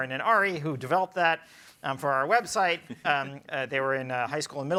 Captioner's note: panelists laugh